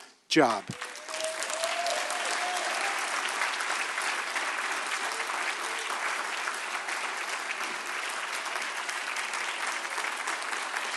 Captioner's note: applause